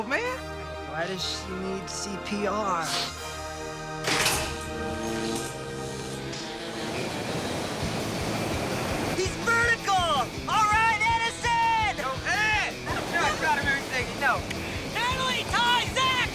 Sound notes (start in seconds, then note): 4.6 humming; 5.4 surfing music plays